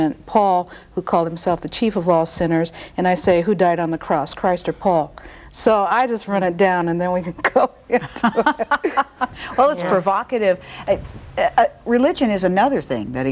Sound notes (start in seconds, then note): 7.9 laughs